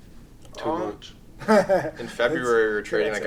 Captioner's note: laughs